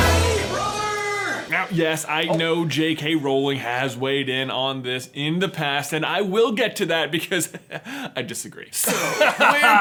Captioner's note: laughter; laughs